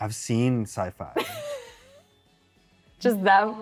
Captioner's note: laughs